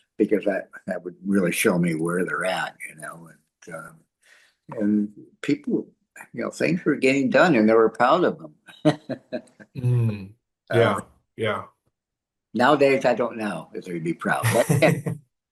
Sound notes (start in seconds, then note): 10.7 laughs